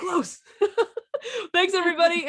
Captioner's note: laughs